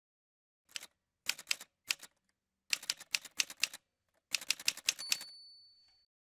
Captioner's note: typewriter sounds